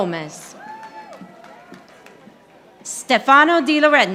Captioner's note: audience applauding